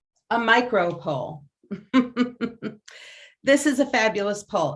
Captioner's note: laughs